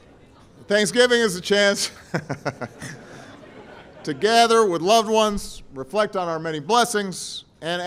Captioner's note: laughter